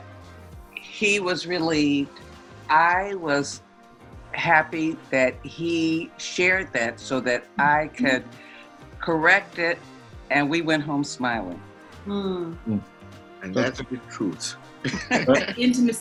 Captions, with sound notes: Right. And then after that, he was relieved, I was happy that he shared that so that I could correct it. And we went home, smiling. (chuckles) - And that a bit cool.